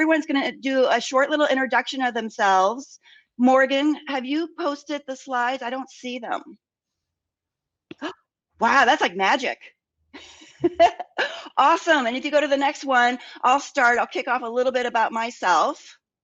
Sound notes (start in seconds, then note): 10.5 laughs